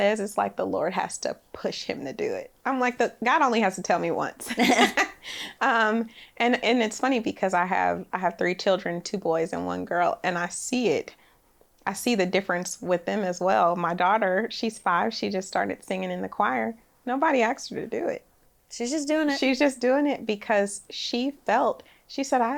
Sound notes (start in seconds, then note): 4.4 both laugh